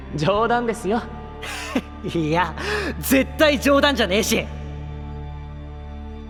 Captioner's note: laughing